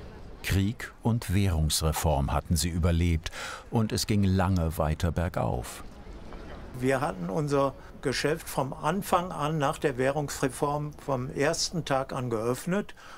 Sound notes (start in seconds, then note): none